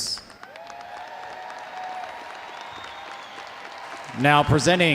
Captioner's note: audience applauding